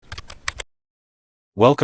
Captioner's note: typing